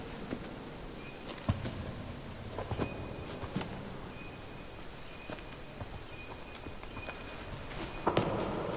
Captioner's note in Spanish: Trinos